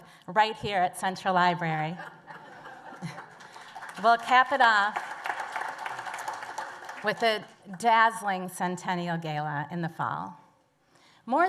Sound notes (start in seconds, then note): 1.9 laughter; 2.9 applause